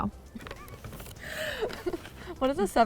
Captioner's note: laughs